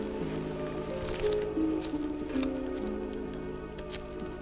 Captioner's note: paper rustling